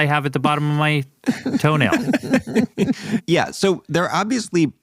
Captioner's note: laughs